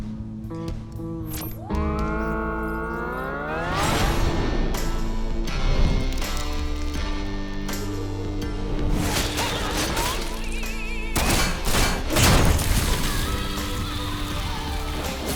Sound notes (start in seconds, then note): 1.0 electronic humming; 3.4 theme song; 11.8 gun shots